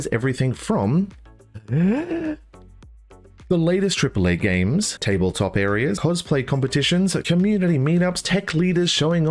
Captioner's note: inhales